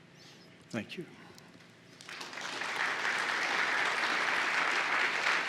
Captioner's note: applause